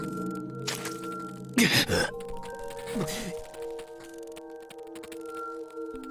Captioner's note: cough